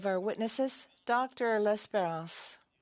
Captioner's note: speaking French